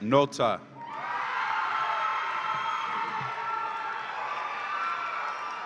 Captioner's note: audience applauds and cheers